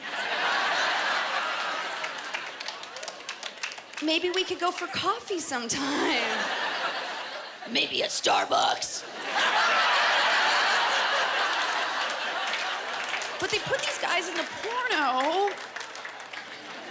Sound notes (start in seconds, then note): 0.0 laughter; 7.4 guttural voice; 9.1 laughter